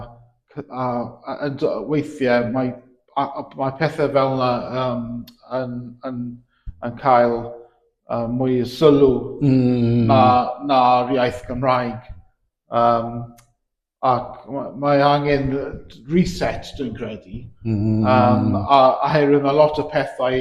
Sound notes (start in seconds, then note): 15.4 in English "reset"